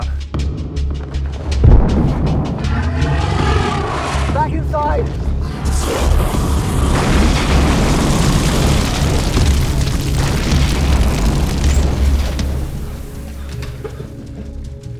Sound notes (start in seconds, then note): 2.5 dragon thuds; 5.0 dragon roars; 11.5 fire blazes